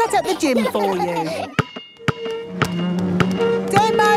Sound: chair scraping

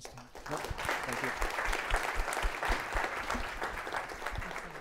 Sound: applause

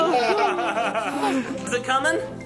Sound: laughs

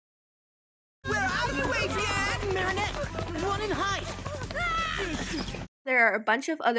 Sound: screams

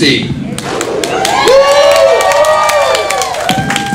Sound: cheering

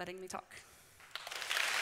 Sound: applause

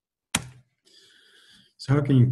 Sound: clicks

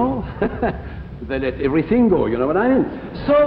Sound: chuckles

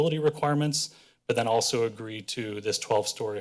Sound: none

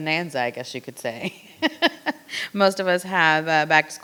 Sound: laughing

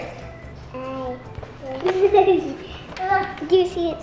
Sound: laughs

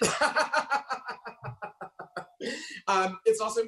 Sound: laughing histerically

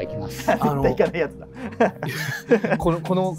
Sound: laughing

